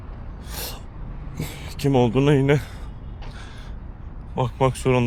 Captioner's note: muttering